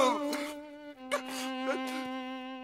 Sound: grunting; crying

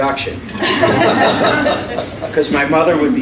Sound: laughter

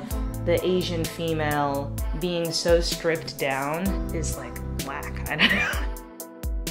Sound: laughter

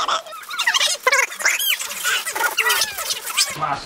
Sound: screeching

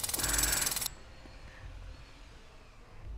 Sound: more Jack Hammering

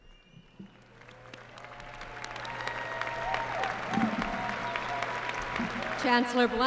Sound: applause

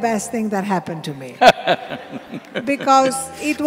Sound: Sadhguru Laughs; few Laugh

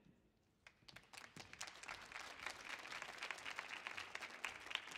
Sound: audience applauding

